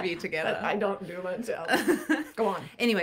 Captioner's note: chuckling